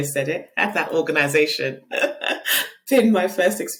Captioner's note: laughing